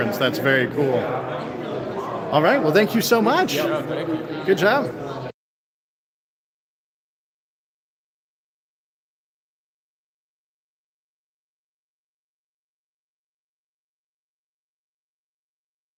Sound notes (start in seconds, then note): 4.8 no audio